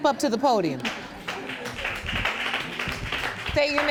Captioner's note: audience laughing and applauding